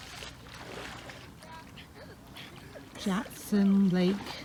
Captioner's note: water splashing